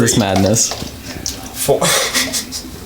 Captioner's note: mayonnaise glops; laughs